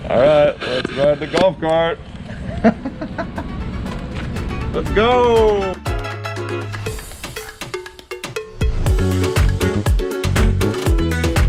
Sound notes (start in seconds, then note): 2.2 laughing; 5.9 upbeat music